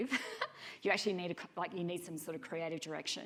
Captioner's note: chuckling